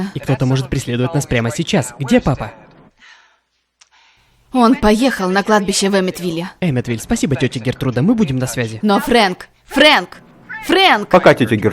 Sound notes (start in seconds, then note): 3.1 sighs